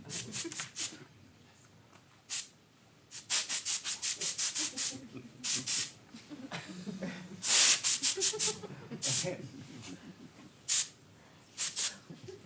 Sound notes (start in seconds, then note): 1.9 spray hisses; 11.6 spray hisses